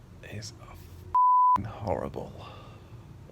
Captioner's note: beeps